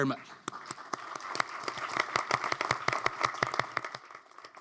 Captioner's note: audience applauds